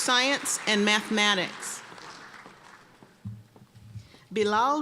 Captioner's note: applause